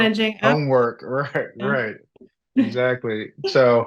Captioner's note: laughs